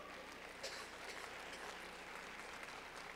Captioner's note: clapping